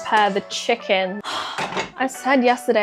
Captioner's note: sigh